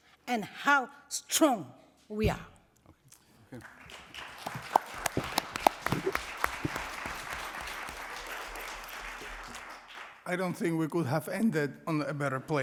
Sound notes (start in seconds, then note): 3.5 applause